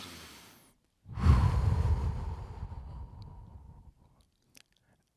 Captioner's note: exhales sharply